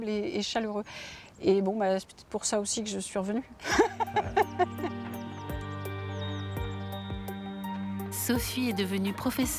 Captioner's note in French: rires